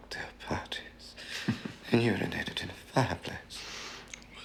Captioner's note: Leo chuckling